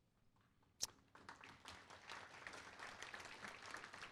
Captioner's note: applause